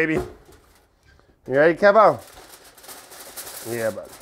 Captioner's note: foil rattling